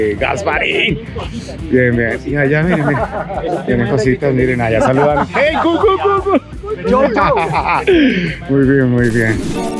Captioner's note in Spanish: risa